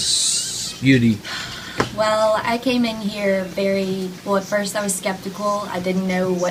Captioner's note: sigh